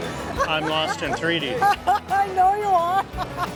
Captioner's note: laughs